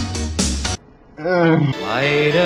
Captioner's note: sounds of protest